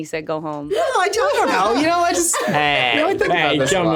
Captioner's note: speaking faintly